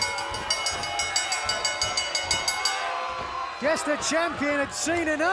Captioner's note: bell ringing